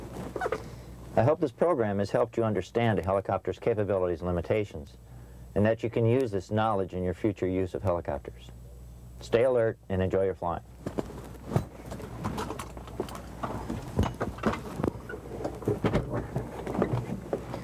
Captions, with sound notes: I hope this program has helped you understand a helicopter's capabilities and limitations, and that you can use this knowledge in your future use of helicopters. Stay alert and enjoy your flying. (seatbelt clinking)